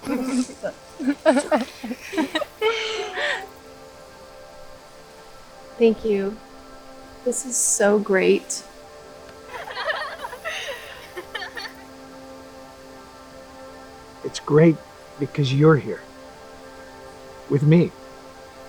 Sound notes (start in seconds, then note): 0.0 girls giggling; 9.4 girls giggling